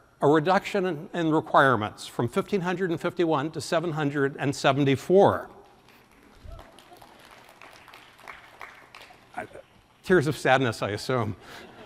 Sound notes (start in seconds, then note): 6.0 audience applauding